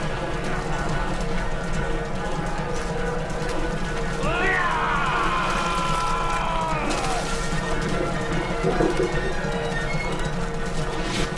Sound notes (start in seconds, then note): 4.8 yelling; 7.6 splashing